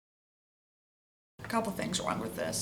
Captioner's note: silence